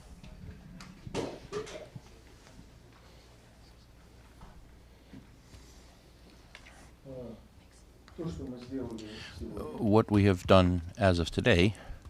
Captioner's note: through translator